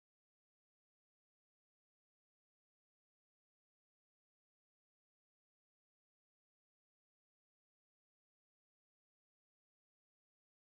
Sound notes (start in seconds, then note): none